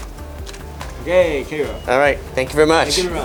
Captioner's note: man speaking in Japanese